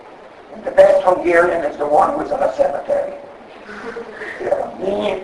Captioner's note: audience laughs